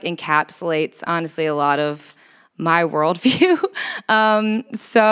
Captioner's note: chuckles